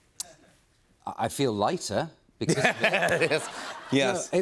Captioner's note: laughter